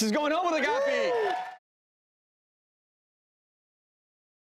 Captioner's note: cheering